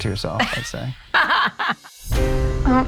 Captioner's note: laugh